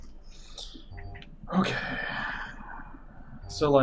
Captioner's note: sighing